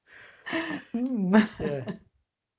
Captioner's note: laughs